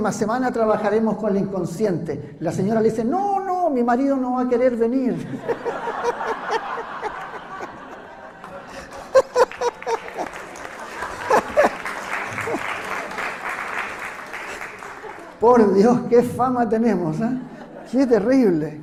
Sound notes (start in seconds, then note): 5.2 laughs; 10.2 applause